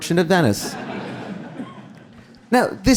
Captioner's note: audience laughing